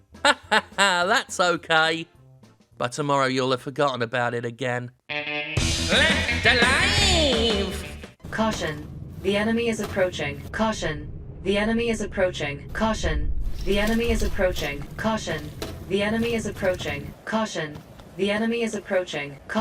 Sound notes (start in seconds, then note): 5.8 as Skeletor; 8.2 electronic voice